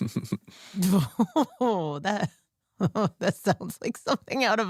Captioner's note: laughs